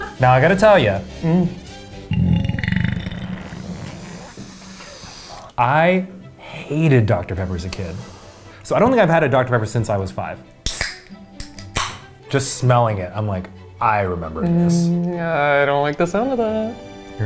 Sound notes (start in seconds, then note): 2.0 burps; 3.1 sniffs; 10.6 soda can pops